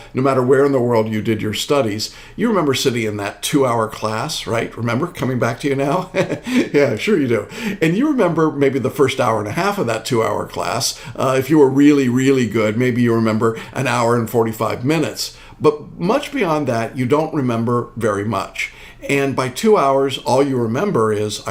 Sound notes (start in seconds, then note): 5.9 laughing